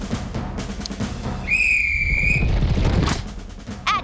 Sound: blows whistle

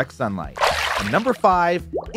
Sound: water splashes

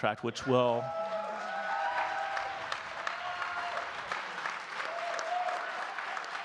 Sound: audience cheering and clapping

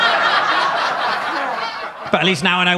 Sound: audience laughing

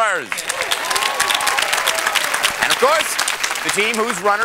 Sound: cheers and applause

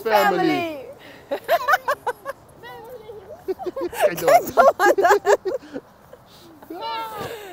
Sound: laughter

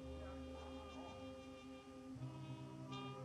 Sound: none

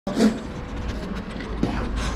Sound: sniffing

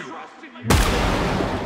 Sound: gunshot

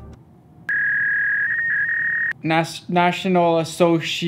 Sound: screeching noise

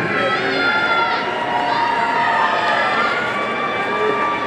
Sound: audience cheering

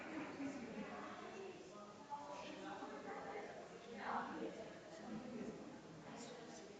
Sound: people chattering distantly continues

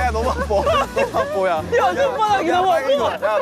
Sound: members groan in pain

